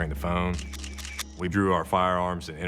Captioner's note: camera shutter clicking